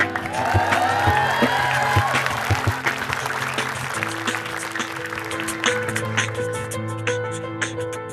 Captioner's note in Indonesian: Tepukan penonton